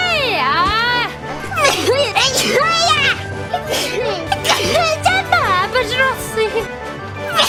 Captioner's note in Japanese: くしゃみ